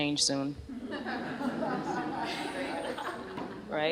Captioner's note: laughter